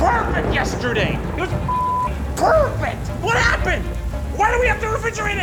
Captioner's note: beep